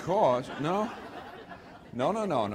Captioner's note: laughter